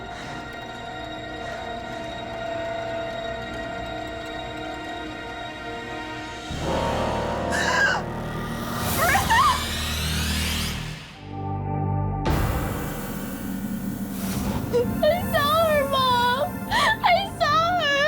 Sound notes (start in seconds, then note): 7.6 gasps; 12.1 eerie music; 16.6 sobbing